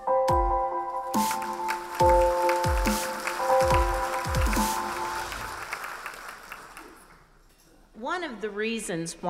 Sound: applause

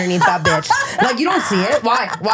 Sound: laughing

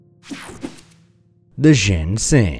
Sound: slide swooshing

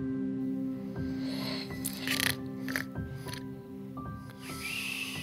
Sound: snoring

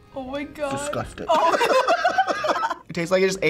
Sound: laughs

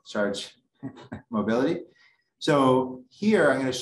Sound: laughs

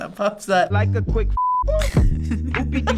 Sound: laughs

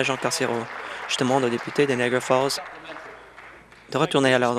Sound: applause

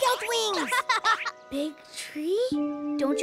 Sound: giggles

